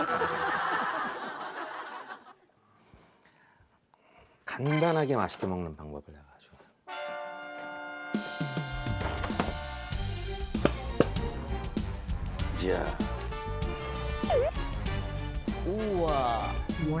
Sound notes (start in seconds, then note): 10.6 tapping